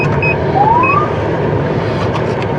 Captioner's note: siriren c chihirps